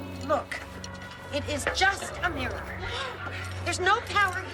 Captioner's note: Nicolette gasps